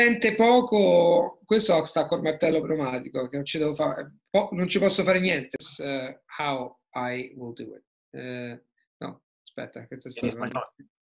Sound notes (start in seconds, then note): 5.9 in English; 8.2 in Italian